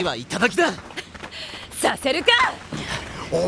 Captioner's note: scoff